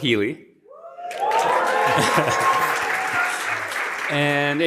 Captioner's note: applause